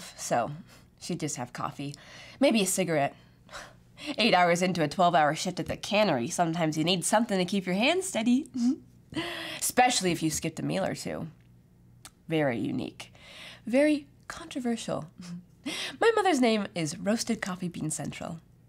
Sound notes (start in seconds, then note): none